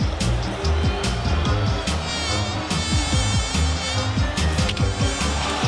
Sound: fly buzzing; crowd gasps

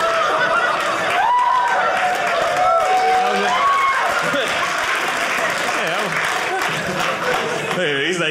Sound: audience laughing; audience cheering

